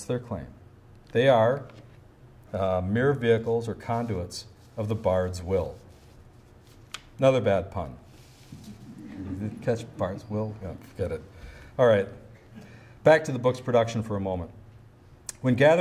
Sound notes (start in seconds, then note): 8.6 audience chuckles